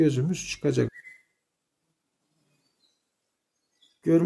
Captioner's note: bird sounds